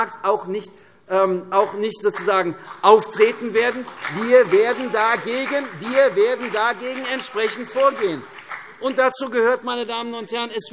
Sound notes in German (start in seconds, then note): 6.7 Beifall : Ei, ei, ei!